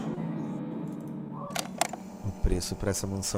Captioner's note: the tape starts